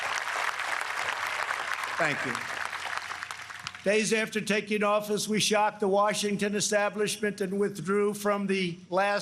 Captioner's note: applause